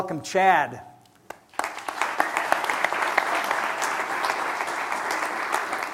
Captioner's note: applause